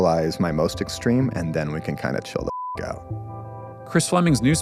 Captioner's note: beep